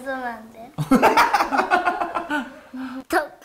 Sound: laughing

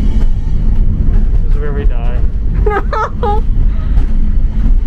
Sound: laughs

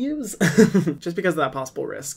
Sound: laughing

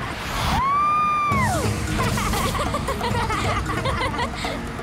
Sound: laughing

